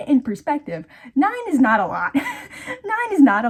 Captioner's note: wheeze